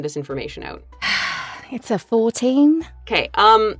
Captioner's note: sighs